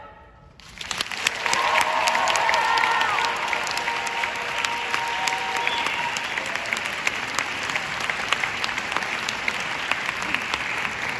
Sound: applauds

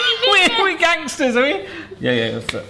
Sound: laughing

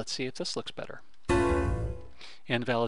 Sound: error tone

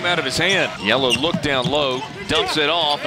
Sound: voiceover

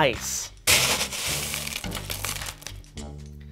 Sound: ice rattling

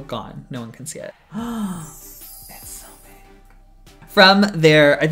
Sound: gasp

